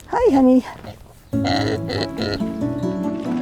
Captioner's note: bella snorts